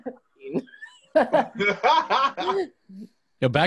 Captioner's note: laughing